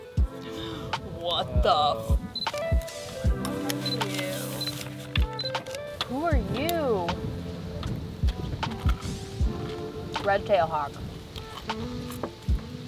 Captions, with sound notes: What the f- (camera shutter clicking) Who are you? Red tail hawk.